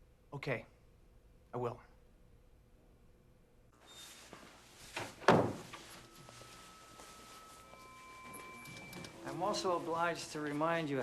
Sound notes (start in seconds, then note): 4.9 lights buzzing